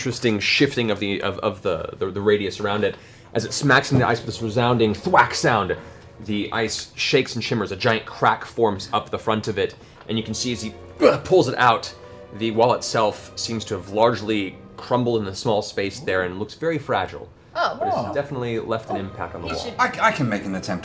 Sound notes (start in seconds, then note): 4.6 thwack; 11.0 grunts